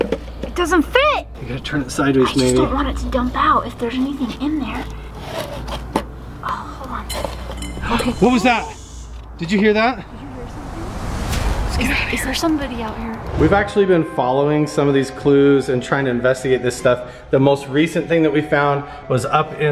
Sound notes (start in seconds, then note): 7.0 metal tapping; 11.5 ominous sound effect